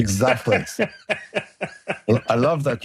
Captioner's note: laughs